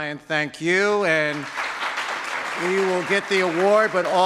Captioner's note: audience claps